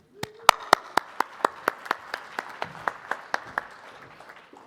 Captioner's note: audience applauding